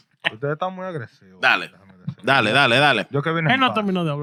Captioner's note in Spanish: Hablando en idioma extranjero